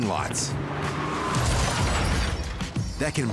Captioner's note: engine racing; glass shattering